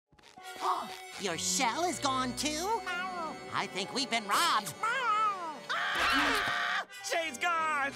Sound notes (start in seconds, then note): 0.6 gasps; 2.8 meows; 4.7 meows; 5.7 distant screaming